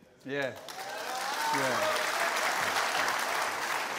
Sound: cheers and applause

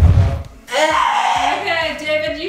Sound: screams

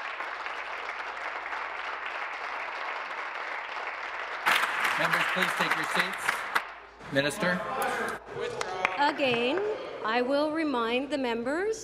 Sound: applause

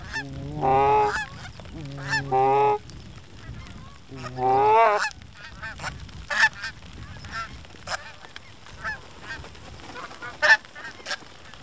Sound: goose Calling

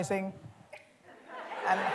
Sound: laughter

